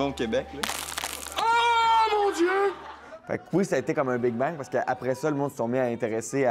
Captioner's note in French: craquement